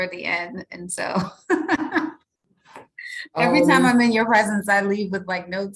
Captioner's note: chuckles